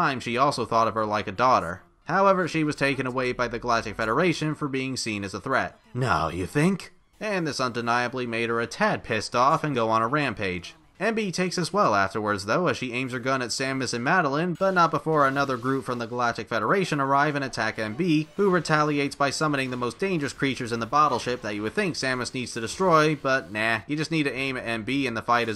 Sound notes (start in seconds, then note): 5.7 sarcastically